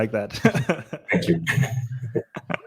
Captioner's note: laughs